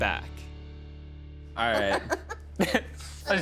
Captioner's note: laughing